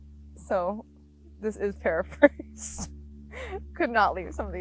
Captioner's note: laughs